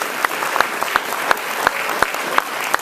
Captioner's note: applause